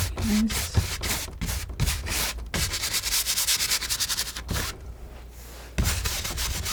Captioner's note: scratching